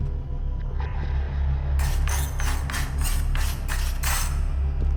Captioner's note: scratching